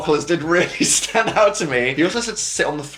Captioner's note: laughs